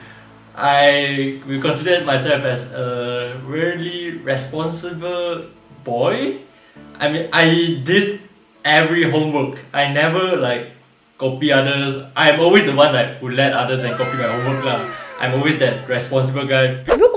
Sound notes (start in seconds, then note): none